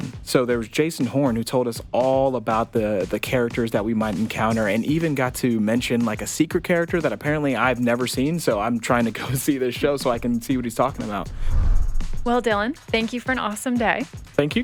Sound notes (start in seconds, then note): 11.5 screen whooshing